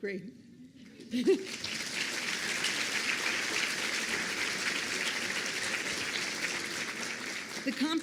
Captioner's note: applause